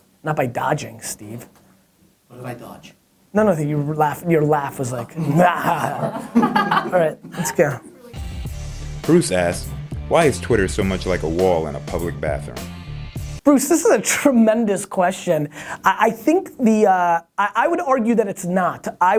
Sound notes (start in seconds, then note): 5.1 laughs sinisterly; 5.1 laughing off screen; 9.1 voiceover